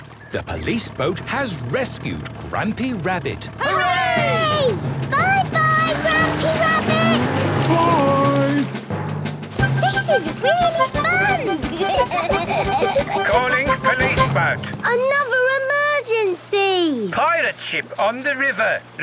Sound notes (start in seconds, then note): 11.7 children giggling; 13.3 voice over radio